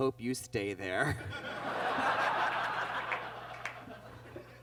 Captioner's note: audience laughs